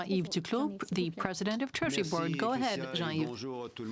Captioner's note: speaking French